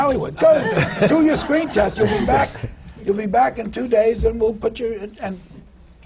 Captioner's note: laughter